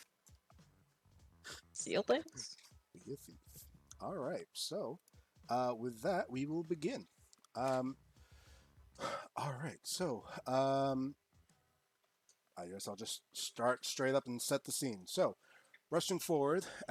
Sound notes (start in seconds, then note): 2.3 chuckles; 8.9 sighs